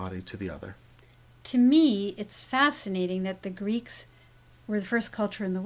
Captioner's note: voiceover